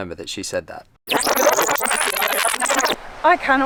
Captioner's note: rewind noise